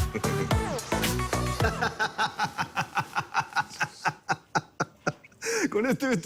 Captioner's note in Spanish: Carcajada